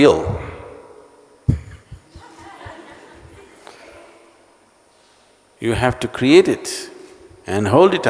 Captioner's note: laughter